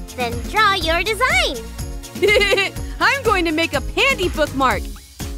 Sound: giggle

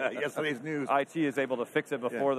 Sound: laughs

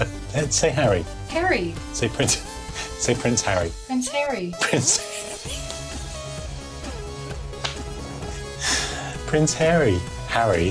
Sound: laughs

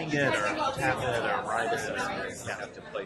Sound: voiceover

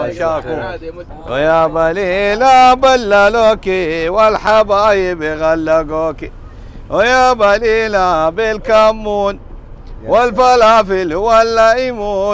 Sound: Arabic

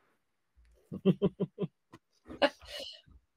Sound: chuckling

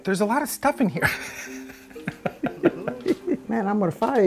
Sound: laughing

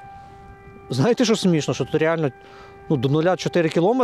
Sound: siren sounds in the background

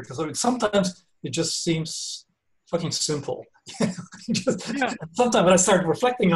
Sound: laughs

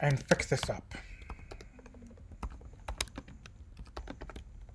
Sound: typing

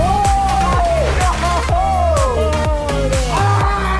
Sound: cheering

